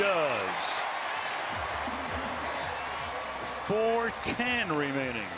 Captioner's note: cheering